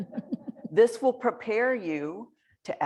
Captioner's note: laughter